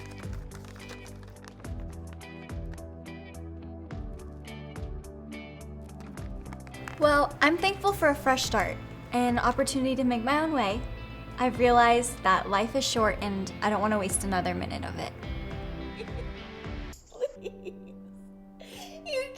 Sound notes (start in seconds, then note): 0.0 paper rustles; 15.7 Pamela sobs